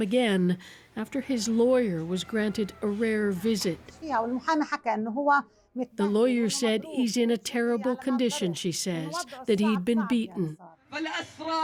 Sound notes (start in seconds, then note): 5.9 speaking alternate language